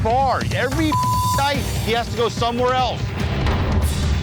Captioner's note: beep